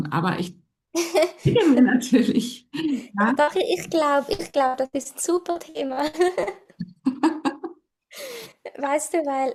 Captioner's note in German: gelächter